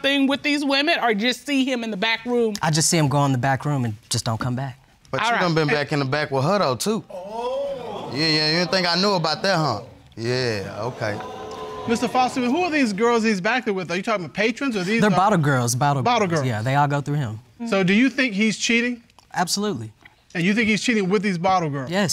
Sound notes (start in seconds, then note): 7.2 audience exclaims